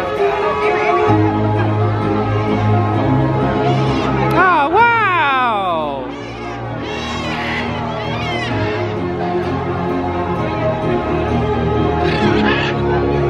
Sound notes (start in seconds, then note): 0.1 mesmerising music; 3.5 parrots squawking; 5.8 parrots squawking; 9.3 mesmerising music continues